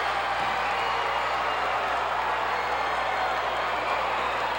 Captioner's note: audience cheering